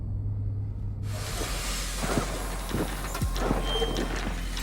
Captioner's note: machine whirring